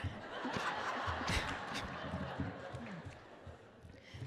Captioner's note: laughter